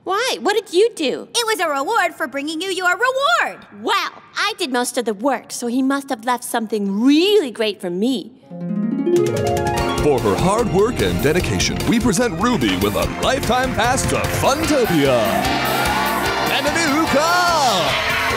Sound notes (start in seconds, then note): 9.3 game show music; 10.4 voiceover; 15.2 cheers and applause